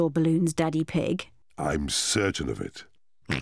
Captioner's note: oinks